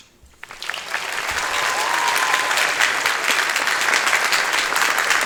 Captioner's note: audience clapping